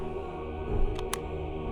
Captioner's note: click